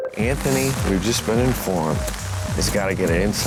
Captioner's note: none